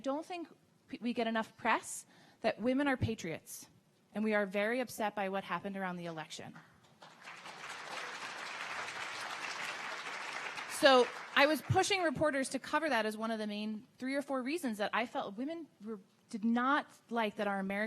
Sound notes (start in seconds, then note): 6.8 audience clapping